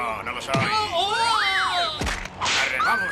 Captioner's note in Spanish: grita